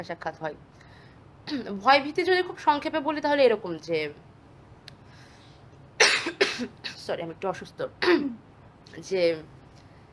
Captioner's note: coughs